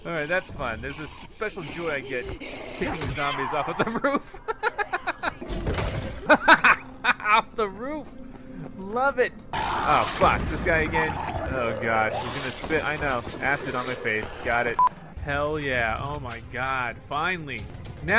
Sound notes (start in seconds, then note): 2.1 growling; 2.1 screaming; 4.6 laughing